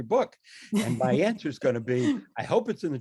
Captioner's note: laughs